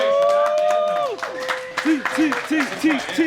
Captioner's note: audience cheering